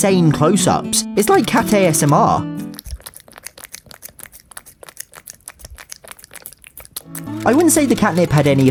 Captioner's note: Bella licking